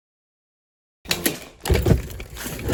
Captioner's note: suitcase sounds